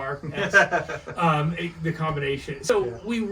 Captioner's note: laughs